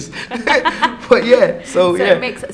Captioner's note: laughs